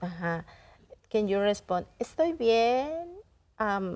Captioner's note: speaking in Spanish; in Spanish